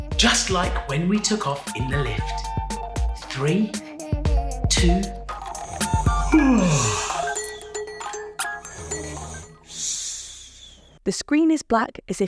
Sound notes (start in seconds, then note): 5.9 yawns; 8.7 snoring